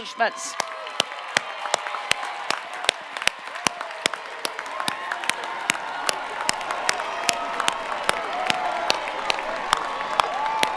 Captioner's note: cheering and Applause